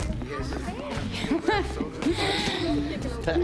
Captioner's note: laughing